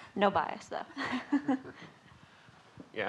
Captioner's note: laughing